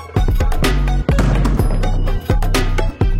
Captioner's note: dunk sound; ball bouncing